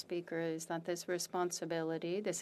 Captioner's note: speaking French